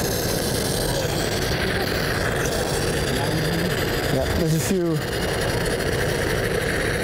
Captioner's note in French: bruits de vapeur